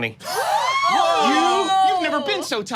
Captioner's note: group exclaiming